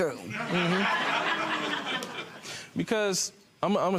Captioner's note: crowd laughs